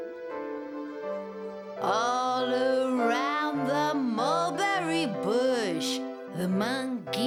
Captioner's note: in sultry voice